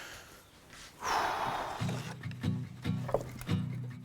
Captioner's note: exhales audibly; acoustic guitar music